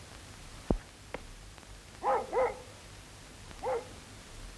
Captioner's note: dog barking